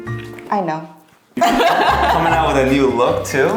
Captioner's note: laughs